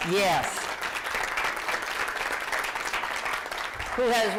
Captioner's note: applause